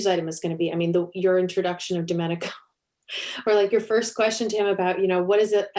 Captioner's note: chuckle